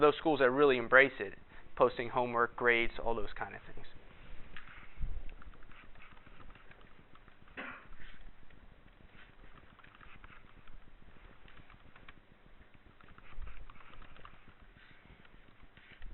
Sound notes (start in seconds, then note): 4.8 typing on keyboard